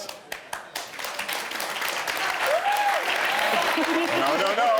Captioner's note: audience applauds